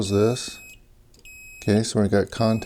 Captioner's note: beeping